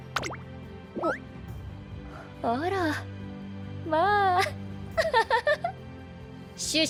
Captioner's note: laughs